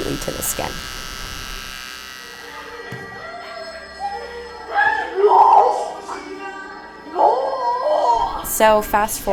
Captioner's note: aggravated mumbling sounds